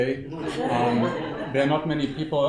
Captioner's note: audience laughing